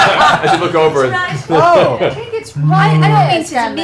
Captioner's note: laughter; sad bear moan